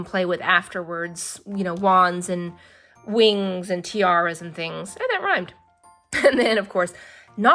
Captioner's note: laughs